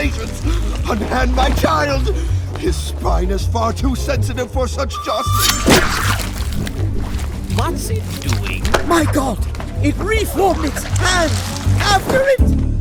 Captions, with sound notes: Unhand my child his spine is far too sensitive for such jostling! [THE SOUND OF CUTTING] What's it doing? My god, it re-formed its hand--after it!